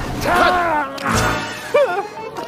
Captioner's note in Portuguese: Gritando